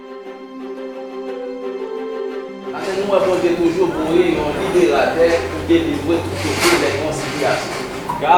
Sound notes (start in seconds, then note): 2.7 speaking in foreign language